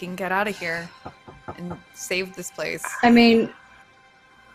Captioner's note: knocking